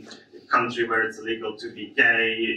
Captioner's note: none